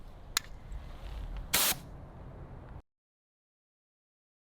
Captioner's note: bear spray discharges